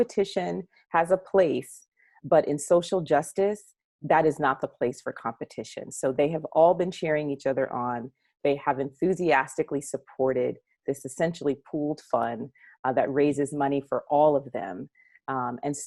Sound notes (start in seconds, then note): none